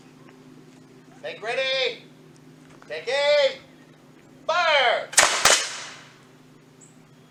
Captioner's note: guns fire